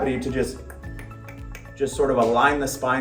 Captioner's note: doctor clicking tongue